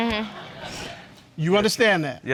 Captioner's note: audience chuckles